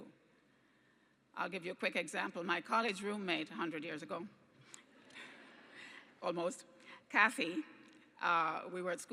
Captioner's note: laughter